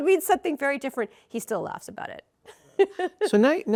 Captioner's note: rires